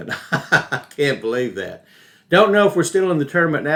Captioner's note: laughing